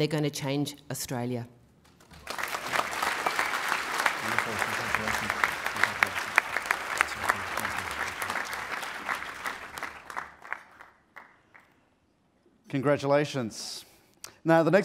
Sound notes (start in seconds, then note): 2.5 applause